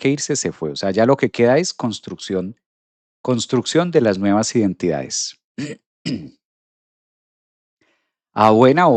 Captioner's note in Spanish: carraspeo